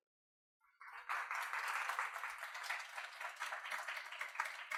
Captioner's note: audience clapping